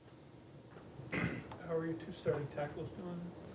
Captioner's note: coughs